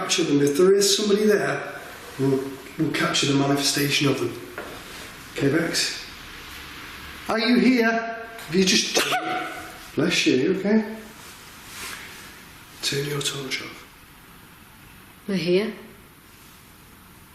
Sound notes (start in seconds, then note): 8.9 sneezing